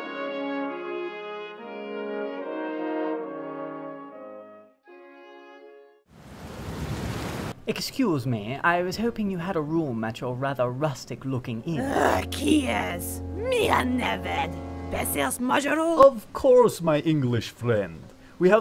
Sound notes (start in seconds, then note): 6.2 rain pouring; 11.9 speaking foreign language